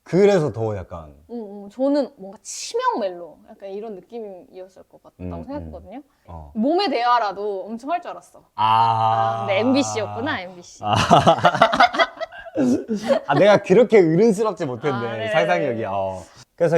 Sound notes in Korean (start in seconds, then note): 8.6 탄식